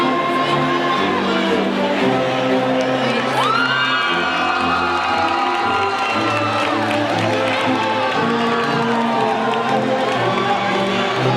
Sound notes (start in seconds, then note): 2.7 audience cheering and applauding